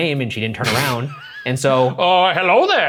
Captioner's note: laughing